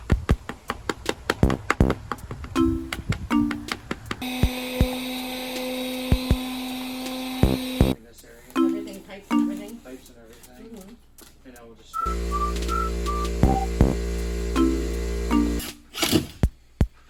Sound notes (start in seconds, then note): 4.2 machine noise